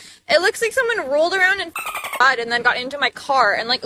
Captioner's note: bird chirping